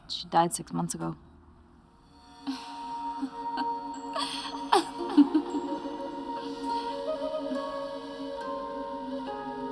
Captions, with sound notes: She died six months ago. ( Laughter echoes )